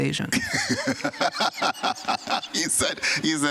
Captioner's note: chuckles